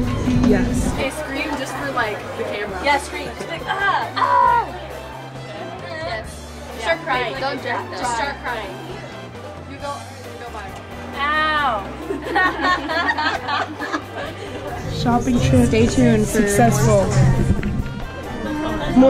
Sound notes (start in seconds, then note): 11.7 girls laugh